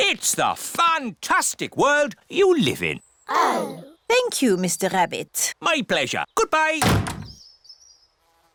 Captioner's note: none